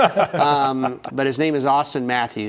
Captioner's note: laughter